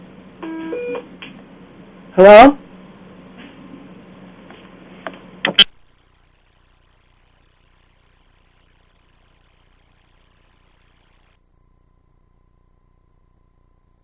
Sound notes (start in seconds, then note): 2.5 no speaking